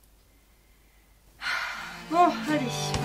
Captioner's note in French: soupir